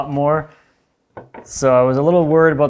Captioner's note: board clacking